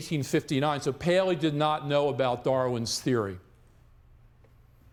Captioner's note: none